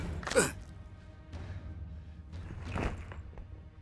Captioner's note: bone cracking